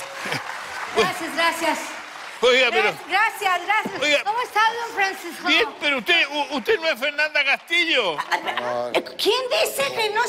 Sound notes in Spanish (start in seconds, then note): 4.4 aplausos